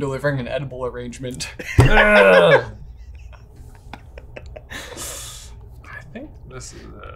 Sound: laughs; grunts

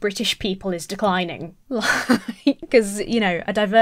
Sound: laughs

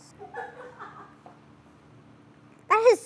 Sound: laughs

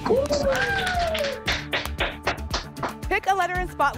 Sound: applause and cheering

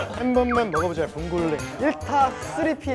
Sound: vocal mimicry

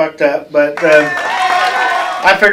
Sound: applause

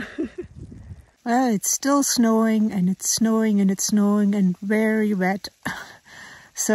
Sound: laughs; laughs

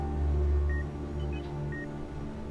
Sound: gentle pensive music; monitor beeping

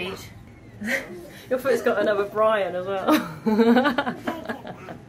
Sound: laughs

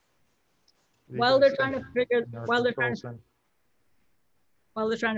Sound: overlapping chatter

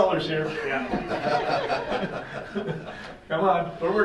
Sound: laughing

